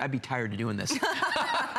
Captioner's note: laughter